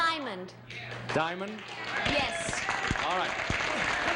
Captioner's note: applause